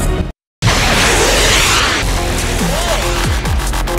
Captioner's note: rockets